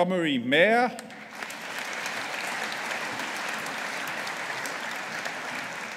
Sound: audience applauding

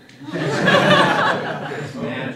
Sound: laughter

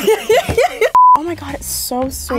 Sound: laughs; beep

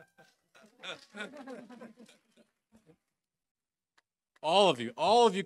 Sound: group laughing

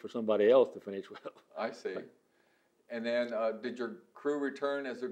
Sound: laughs

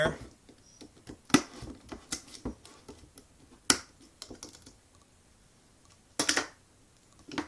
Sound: sound of can lid being pried off

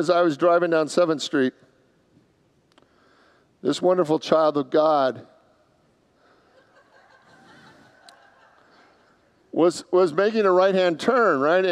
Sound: congregants laugh

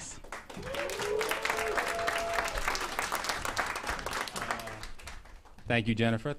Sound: applause

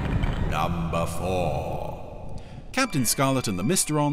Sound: ominous Voice

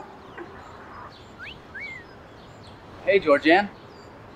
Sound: whistling

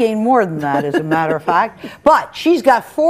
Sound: chuckles

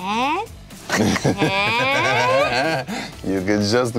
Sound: laughing

